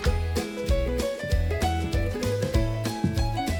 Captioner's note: steps approaching